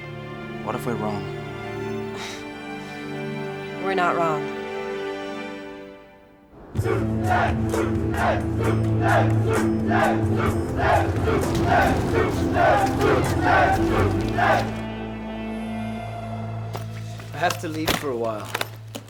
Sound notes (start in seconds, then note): 2.1 sighs; 8.9 crowd